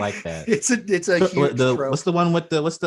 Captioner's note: laughs